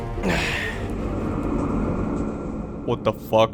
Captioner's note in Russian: Страшное завывание